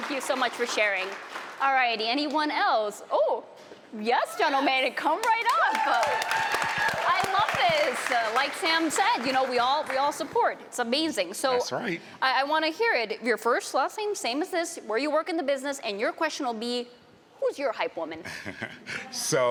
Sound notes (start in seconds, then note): 7.6 applause